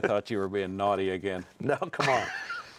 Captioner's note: laughs